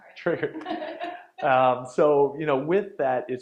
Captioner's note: laughing